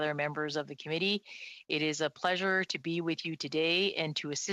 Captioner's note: speaking French